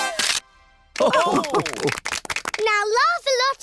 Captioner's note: all laugh